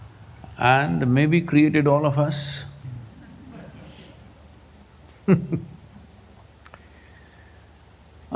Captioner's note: laughs